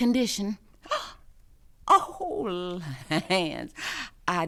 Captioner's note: giggles; gasps